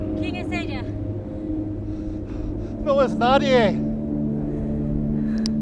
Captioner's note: both speaking foreign language